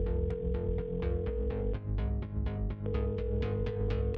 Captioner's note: phone ringing